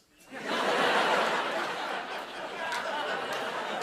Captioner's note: laughter